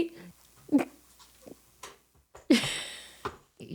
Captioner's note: laughing